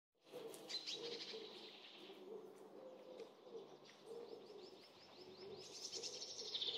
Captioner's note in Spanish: trinos de pájaros